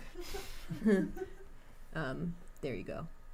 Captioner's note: chuckling